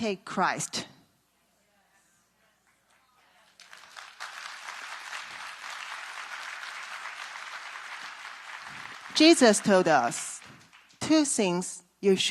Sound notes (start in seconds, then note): 0.6 claps